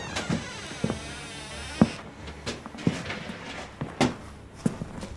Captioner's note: footsteps approaching